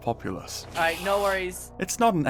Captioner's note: screech